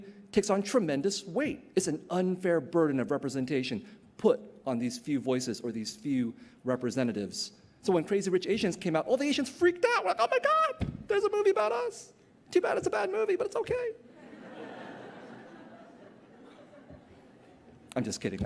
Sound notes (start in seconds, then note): 14.0 laughter